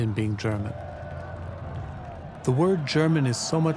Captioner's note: cheering